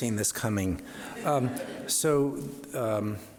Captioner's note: audience laughs